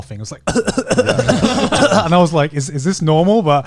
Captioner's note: coughing